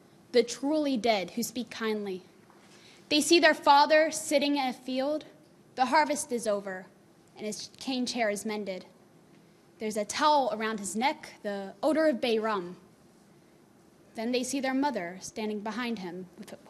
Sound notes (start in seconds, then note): none